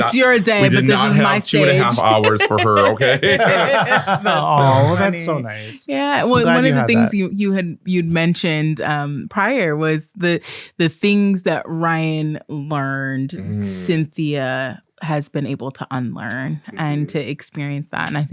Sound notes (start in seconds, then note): 3.7 laughing